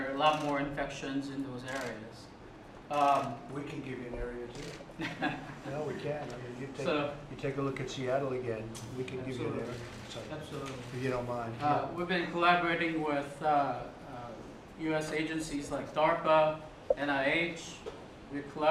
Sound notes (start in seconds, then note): 4.9 laughs